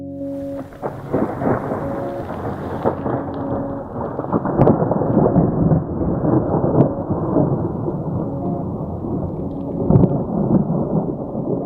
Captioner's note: thunder